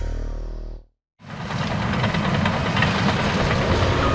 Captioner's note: engine running